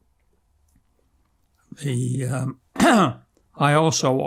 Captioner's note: clears throat